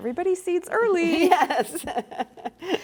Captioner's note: laughs